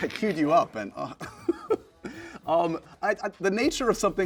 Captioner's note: laughs